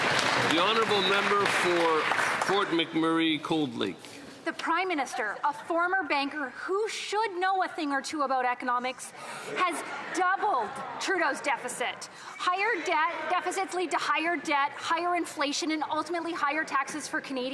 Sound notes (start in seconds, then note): 3.8 some Applause